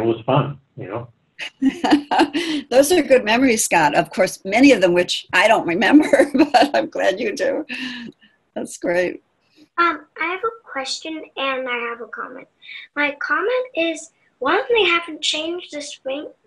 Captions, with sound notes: And it was fun, you know. (laughing) - Those are good memories, Scott, of course, many of them, which I don't remember, but I'm glad you do, that's great. - I have a question and I have a comment. My comment is, one, they haven't changed the swings